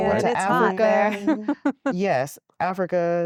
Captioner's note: giggling